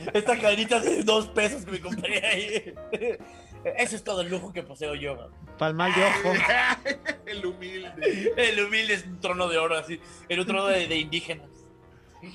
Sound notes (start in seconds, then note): 2.9 laughs; 5.8 laughing